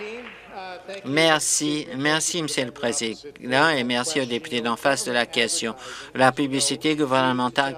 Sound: applause

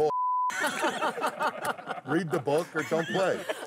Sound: laughing

